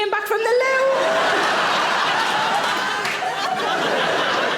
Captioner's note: audience laughing